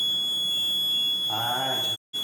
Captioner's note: beeping